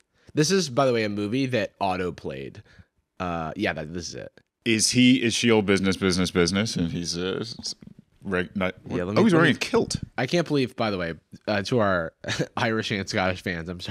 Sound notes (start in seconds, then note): 8.4 stammering